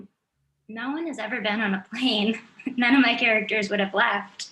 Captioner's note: chuckles